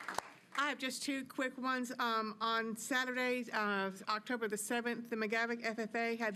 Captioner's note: applause